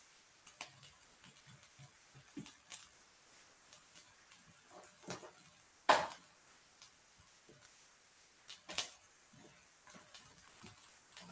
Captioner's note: silence